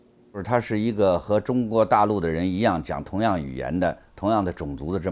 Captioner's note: speaks in Chinese